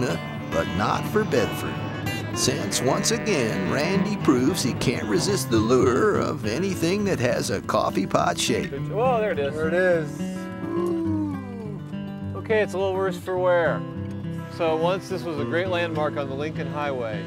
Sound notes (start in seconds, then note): 9.0 chuckles